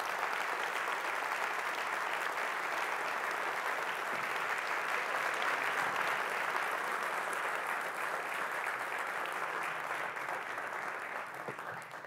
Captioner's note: audience applause